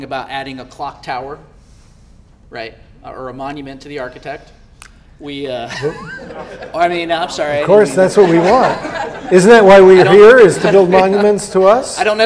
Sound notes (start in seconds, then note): 5.7 audience laughter